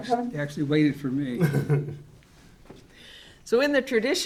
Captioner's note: laughs